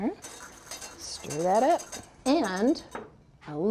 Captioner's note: light scraping